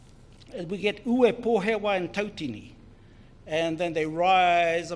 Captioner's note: foreign Language